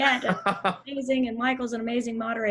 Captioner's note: laughing